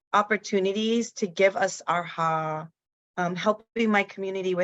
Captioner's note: speaks in foreign language